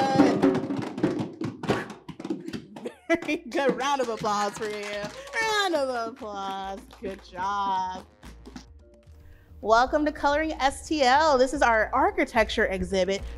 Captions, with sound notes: Very good, round of applause for you. (all applauding) Round of applause. Good job. Welcome to "Coloring STL." This is our architecture exhibit.